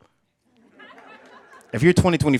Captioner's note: laughing